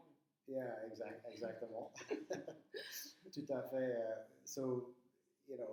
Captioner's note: speaking in foreign language